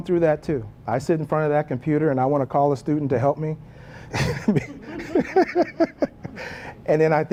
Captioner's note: laugh